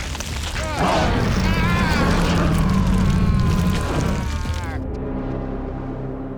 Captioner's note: teeth crunching; Adrian groaning; Adrian screaming; shark growling; dramatic music